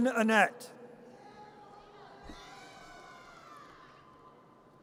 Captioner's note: audience cheers